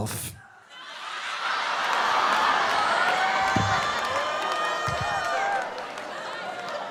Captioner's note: audience laughing; audience groaning